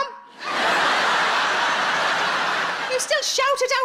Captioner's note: audience laughs